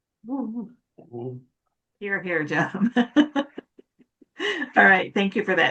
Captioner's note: laughing